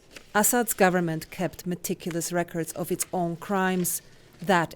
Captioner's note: voice-over